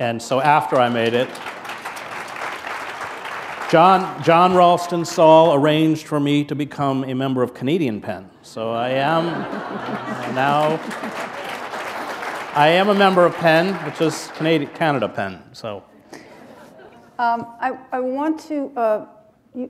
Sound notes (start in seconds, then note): 0.4 applause; 9.0 laughter; 9.3 applause